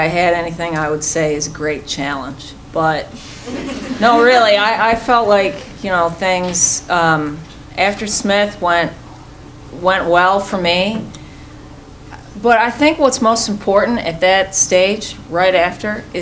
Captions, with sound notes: I would say is a great challenge. (chuckling) No, really, I felt like things after Smith went well for me, but I think what's most important at that stage right after